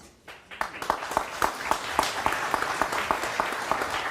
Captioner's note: audience applauds